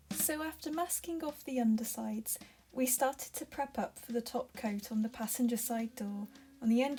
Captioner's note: voiceover